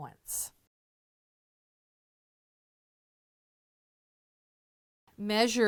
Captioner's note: no Sound Present